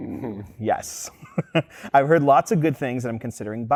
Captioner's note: chuckles